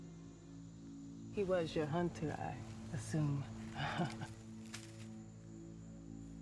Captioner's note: chuckles